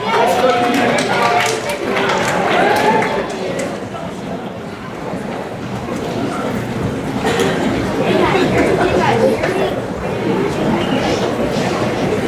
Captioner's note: background Discussion